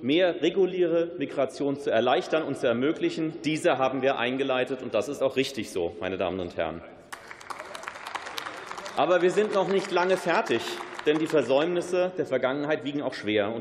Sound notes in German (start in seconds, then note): 7.1 Beifall